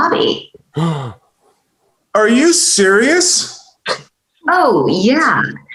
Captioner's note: gasping